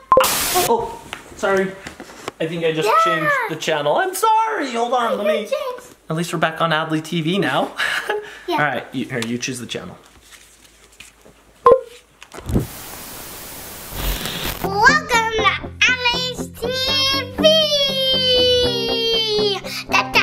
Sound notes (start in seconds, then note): 8.2 laughs; 11.6 remote beeping; 12.4 TV static